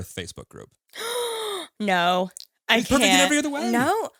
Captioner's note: gasps